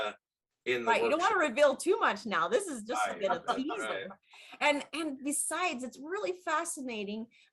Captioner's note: laughing